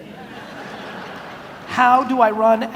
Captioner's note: audience laughs